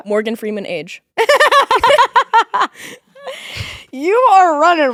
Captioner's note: both laughing